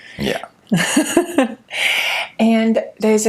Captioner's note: laughs